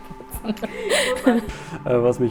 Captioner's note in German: Lachen